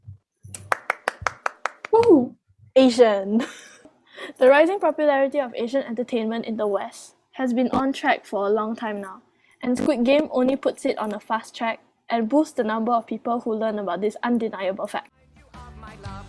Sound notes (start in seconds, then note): 0.5 clappity clap